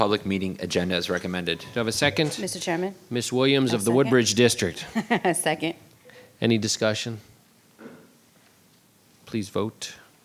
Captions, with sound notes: approve the public meeting agenda as recommended. - Do I have a second? - Mr. Chairman. - Miss Williams of the Woodbridge District. - (laughs) Second. - Any discussion? Please vote.